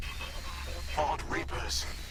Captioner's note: static